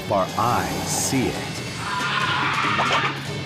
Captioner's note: shrieks